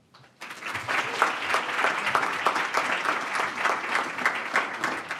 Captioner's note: audience applauding